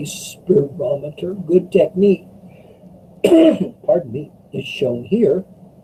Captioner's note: coughs